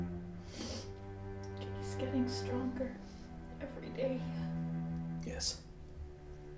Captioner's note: sniffling